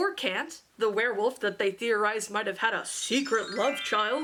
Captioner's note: magic chime